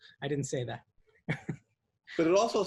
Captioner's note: laughs